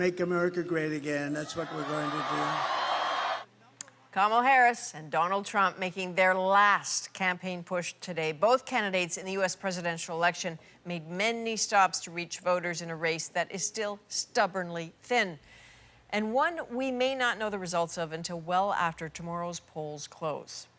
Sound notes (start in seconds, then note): 3.7 cheers and Applause